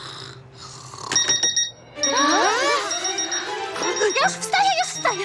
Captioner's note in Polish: dzwonienie budzika